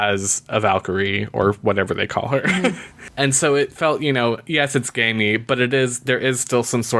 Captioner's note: laughs